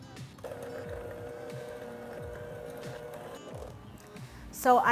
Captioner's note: mixer whirring